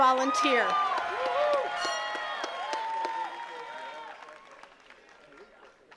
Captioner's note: attendees cheering and clapping